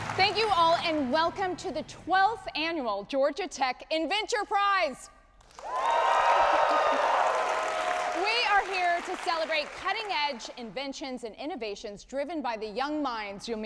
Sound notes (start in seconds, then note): 5.4 audience applauding